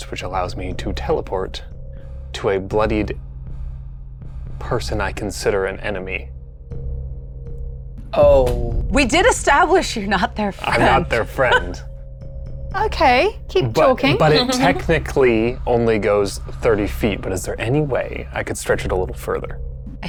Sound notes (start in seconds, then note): 10.6 laughs